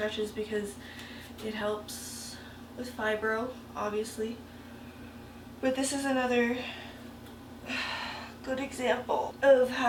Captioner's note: sigh